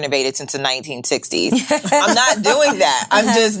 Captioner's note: ladies laughing